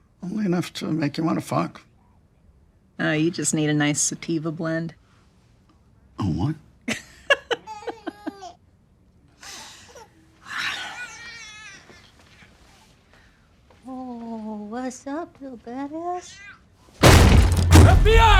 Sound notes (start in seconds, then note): 7.2 Troy laughing; 7.2 baby crying; 17.0 door crashing